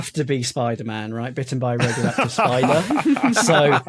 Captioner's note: others chuckling